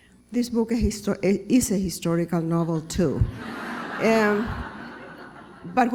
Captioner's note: laughter